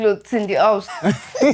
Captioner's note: laughs